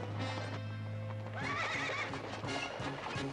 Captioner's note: horse neighing